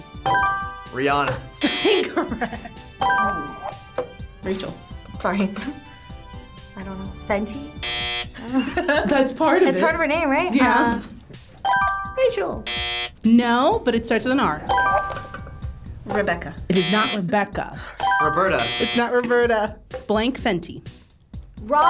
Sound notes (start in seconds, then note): 1.6 buzzer chimes; 1.6 buzzer blares; 1.6 laughing; 7.7 buzzer blares; 8.3 laughs; 12.6 buzzer chimes; 12.6 buzzer blares; 14.7 buzzer chimes; 18.2 buzzer chimes; 18.3 buzzer blares